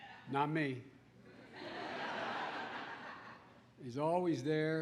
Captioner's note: laughter